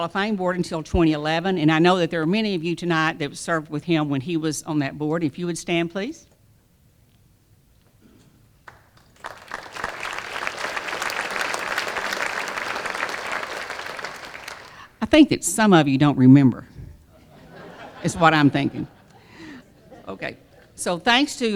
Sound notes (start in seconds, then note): 12.2 applause